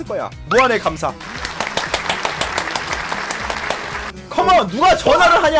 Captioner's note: applause